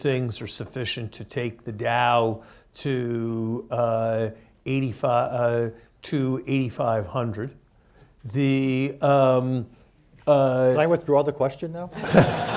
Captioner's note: laughter